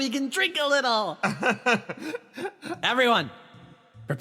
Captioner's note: laugh